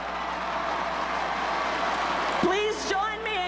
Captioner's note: crowd cheers